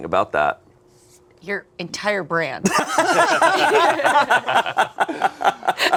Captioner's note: group laughing